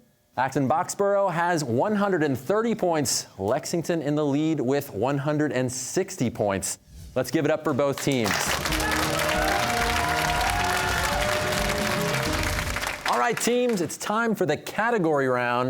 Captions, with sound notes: Acton-Boxborough has 130 points; Lexington in the lead with 160 points. Let's give it up for both teams. (cheers and applause) All right, teams, it's time for the category round.